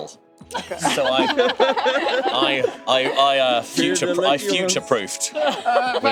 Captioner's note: laughter